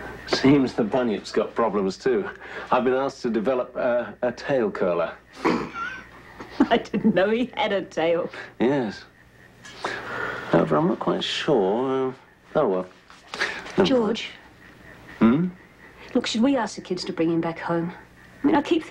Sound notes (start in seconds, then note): 5.3 snickers